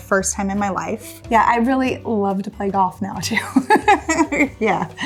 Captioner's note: laughs